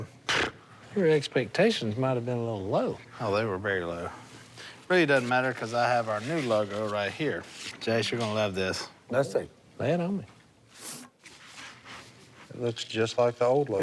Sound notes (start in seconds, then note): none